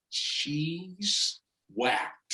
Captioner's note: none